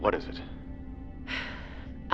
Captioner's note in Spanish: Suspiro